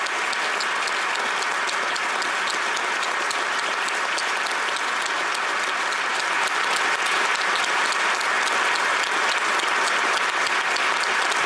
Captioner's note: applause